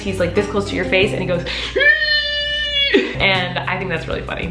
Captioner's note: muffled screaming